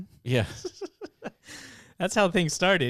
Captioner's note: laughs